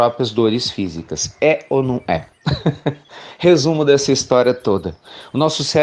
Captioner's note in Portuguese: Risos